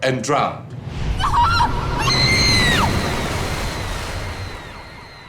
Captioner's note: Paige screaming